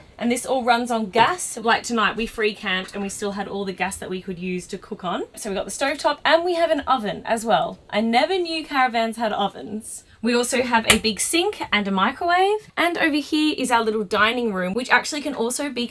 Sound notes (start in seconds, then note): none